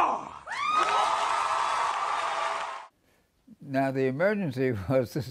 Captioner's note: crowd screaming